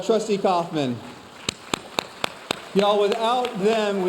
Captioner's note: audience applauding